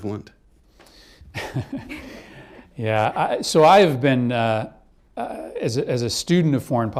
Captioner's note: laughter